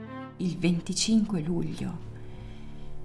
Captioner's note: orchestral music; speaking Italian